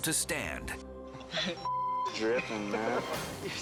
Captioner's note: beep